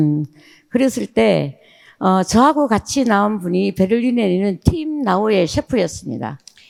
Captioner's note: speaking in foreign language